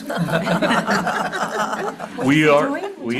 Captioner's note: everyone laughing